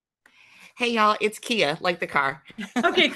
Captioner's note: chuckles